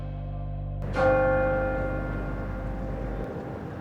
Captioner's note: bell rings